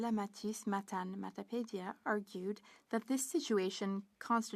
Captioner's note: speaking French